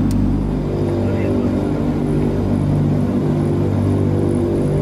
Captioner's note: plane engine roaring